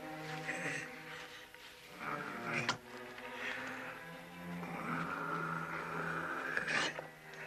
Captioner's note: dramatic music; Qahhar grunting